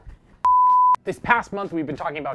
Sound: beep

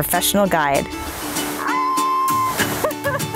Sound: cheering; laughing

